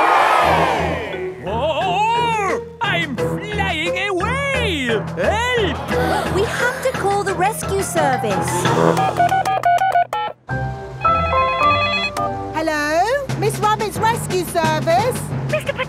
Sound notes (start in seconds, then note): 0.0 crowd cheers; 8.5 beeping; 11.0 phone ringing